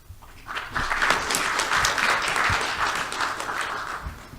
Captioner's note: crowd applauds